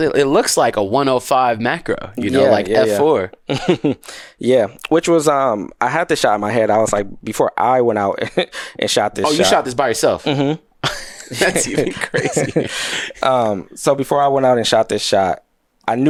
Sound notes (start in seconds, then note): 10.8 laughs